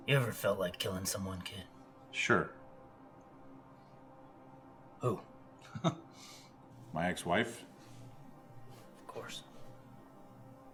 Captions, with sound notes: - You ever felt like killing someone, kid? - Sure. - Who? (Alan chuckles) - My ex-wife. - Of course.